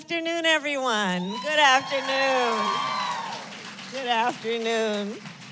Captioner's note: applause